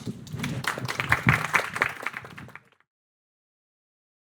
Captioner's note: audience applauding